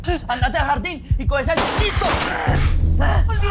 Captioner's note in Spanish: Disparos